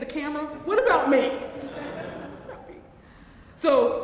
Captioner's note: laugh